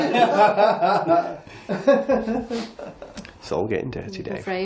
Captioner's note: laughing